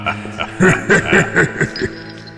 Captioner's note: laugh